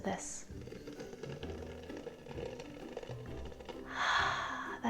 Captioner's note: juice patters